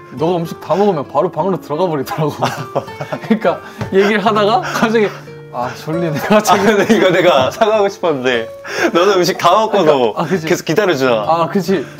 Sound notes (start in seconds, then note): 2.4 embarrassed laugh